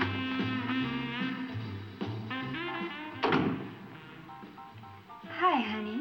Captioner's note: door latching; door unlatching